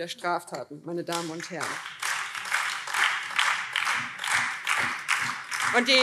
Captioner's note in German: Beifall BÜNDNIS 90/DIE GRÜNEN und Freie Demokraten